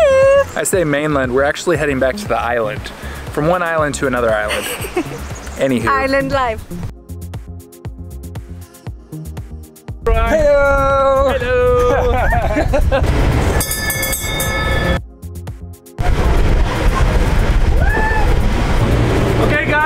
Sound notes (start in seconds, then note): 7.4 upbeat music; 11.7 both laughing; 13.5 bell ringing; 15.7 upbeat music